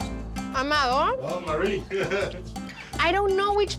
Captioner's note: laughing